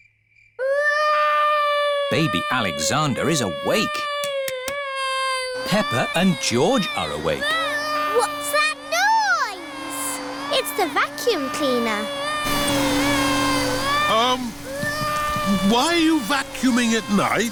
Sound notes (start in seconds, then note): 0.2 baby alexander crying; 7.6 vacuum cleaner whirring; 12.8 crying